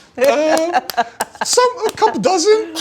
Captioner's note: laughing